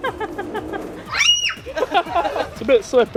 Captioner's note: laughter; child screams